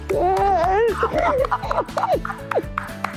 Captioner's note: sobbing